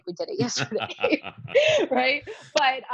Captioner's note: laughs